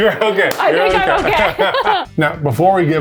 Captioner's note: laughs